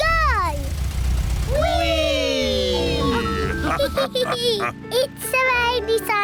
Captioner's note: all laugh